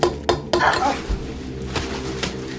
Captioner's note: wooden thunk